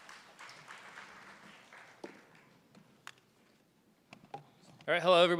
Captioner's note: applause